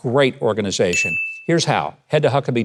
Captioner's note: bell dings